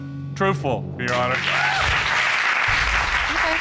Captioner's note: audience cheering